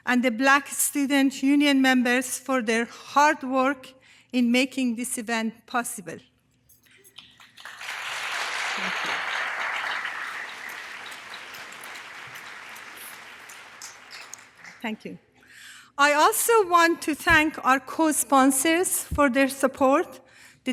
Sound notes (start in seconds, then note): 7.1 audience applause